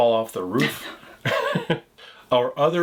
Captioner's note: chuckles